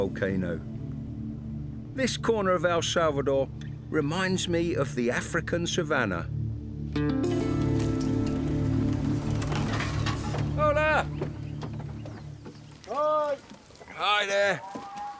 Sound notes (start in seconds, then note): 7.2 truck rumbles; 10.9 ranger calls out